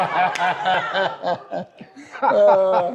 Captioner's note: laughter